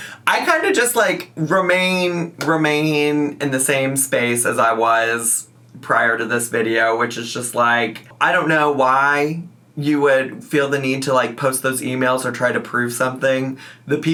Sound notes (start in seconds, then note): none